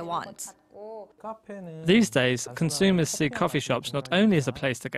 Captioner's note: Korean